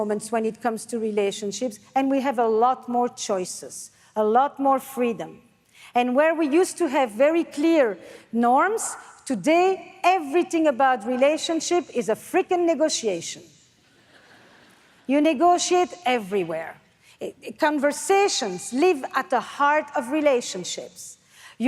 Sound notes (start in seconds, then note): 14.2 audience laughs